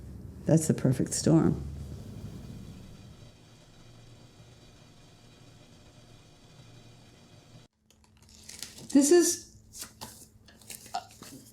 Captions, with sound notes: that's the perfect storm. (tea pot boiling) This is...